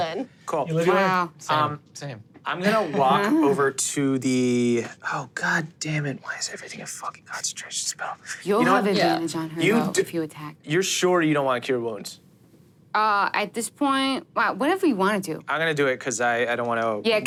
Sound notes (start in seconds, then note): 6.1 whispering